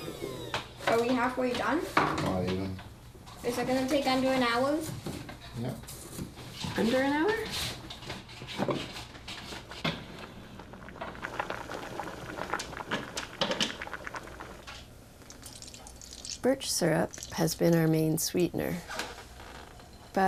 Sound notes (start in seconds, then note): 11.2 bubbling; 12.7 scratching